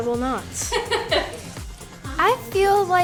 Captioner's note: interviewer laughing